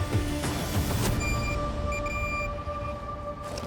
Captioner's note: beeping